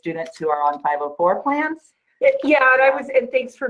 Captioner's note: gargling words